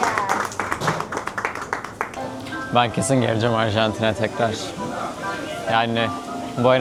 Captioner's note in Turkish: alkış